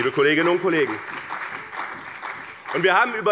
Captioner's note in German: Beifall bei dem BÜNDNIS 90/DIE GRÜNEN und der CDU